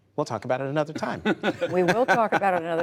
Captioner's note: laughter